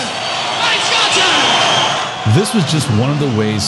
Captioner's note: audience applause